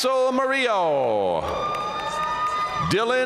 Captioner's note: audience cheering and applauding